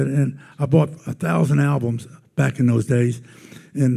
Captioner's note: none